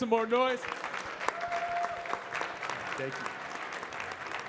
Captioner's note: audience cheering and clapping